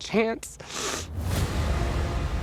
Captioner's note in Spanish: resopla